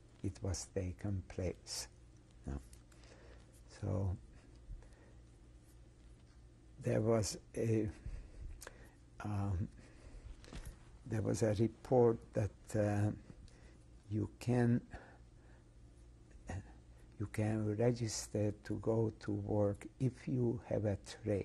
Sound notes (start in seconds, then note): 7.9 pauses for 3 seconds